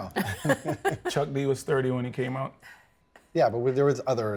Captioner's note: laugh